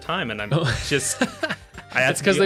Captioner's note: laughs